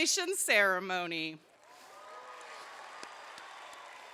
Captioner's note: crowd cheers